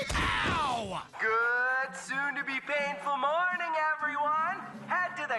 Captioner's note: Chris on PA